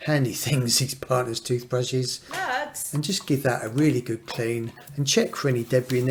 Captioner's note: wife shouts 'Lurgs'